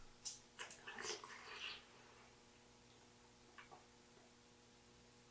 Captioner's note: mouth squishing